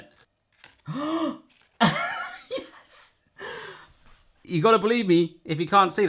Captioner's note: gasps; laughs